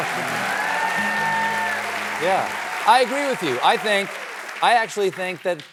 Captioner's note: cheering and applause